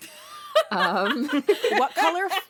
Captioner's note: laughter